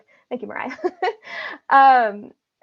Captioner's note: laughing